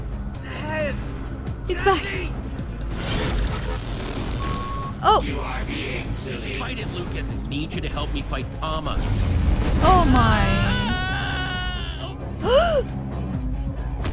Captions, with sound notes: - He's back. (electric currents) Oh. - Oh my... - Aaaaaaaahhh! (gasps)